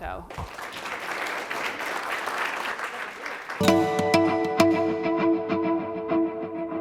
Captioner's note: applause